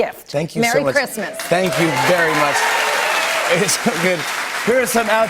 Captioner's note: cheers and applause